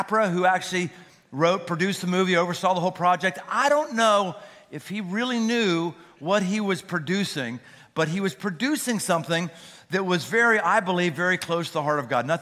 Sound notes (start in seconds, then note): none